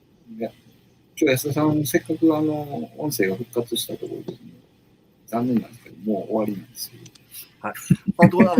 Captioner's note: laughs